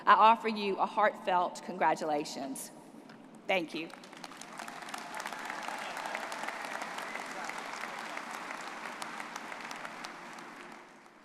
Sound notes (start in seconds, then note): 3.9 audience applauding